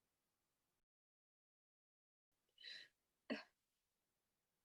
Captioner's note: choking back tears